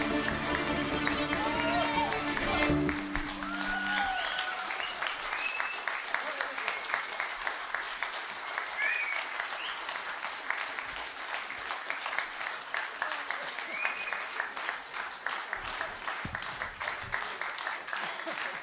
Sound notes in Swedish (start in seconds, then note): 3.3 applåder